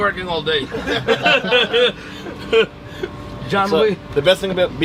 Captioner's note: sailors laughing